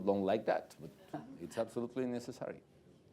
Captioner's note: chuckles